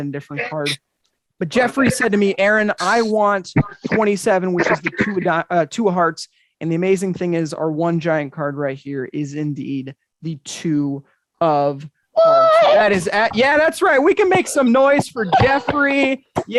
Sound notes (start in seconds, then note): 12.2 woman exclaiming